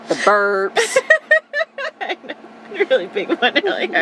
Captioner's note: laughing